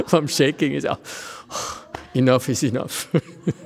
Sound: laughs

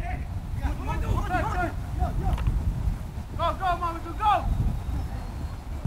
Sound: players talking and yelling

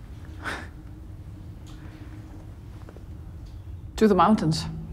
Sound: chuckles

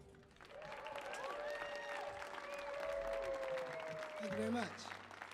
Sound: audience applauding

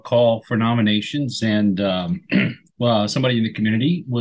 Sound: clears throat

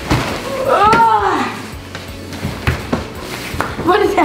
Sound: moans

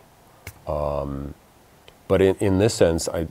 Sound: claps

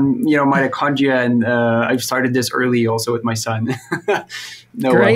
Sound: laughs

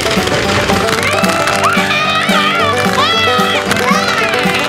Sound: mom scream

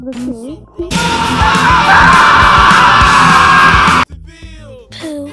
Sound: screaming

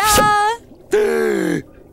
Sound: gasping

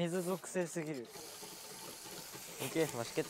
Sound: sizzling

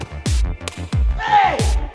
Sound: ice cream thudding

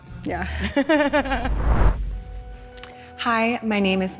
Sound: laughing

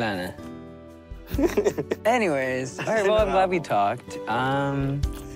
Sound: zuher chuckles

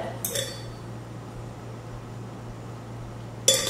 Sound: straw clangs

